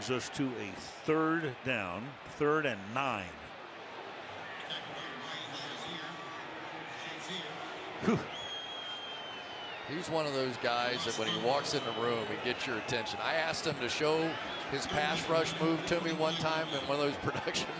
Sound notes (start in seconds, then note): 8.0 chuckles